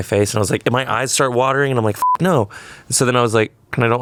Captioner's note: beep